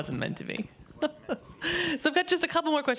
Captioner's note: laughing